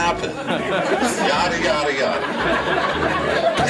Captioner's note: laughter